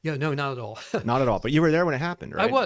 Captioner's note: laughs